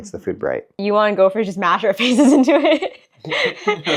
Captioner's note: laughing